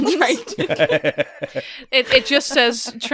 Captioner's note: laughter